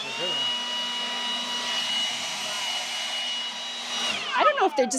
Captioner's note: blower whooshes